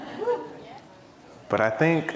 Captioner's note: audience cheering